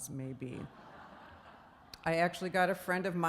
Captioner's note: laughing